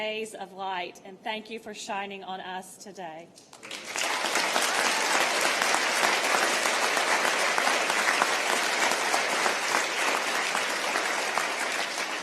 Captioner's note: applause